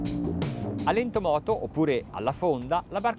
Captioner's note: speaks in foreign language